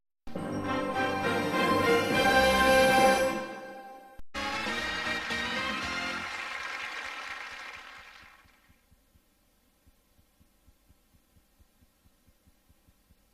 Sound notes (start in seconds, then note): 0.3 majestic orchestral music continuing; 8.2 silence